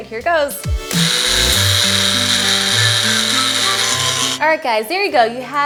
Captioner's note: food processor whirring